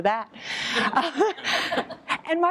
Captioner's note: laughter